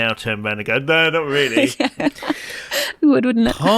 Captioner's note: laughs